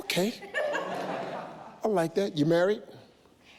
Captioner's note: audience laughs